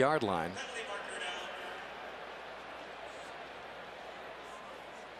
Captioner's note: pa announcement